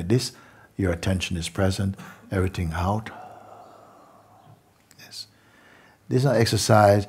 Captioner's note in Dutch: lange uitademing